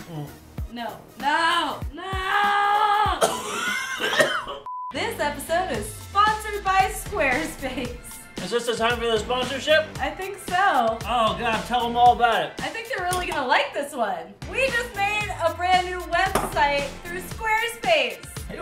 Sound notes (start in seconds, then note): 3.0 coughing